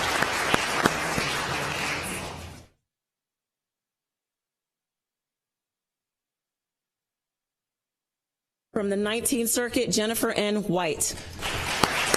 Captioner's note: applause